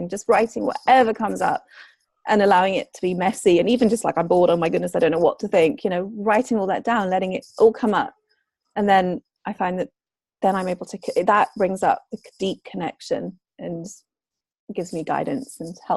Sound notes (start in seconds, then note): none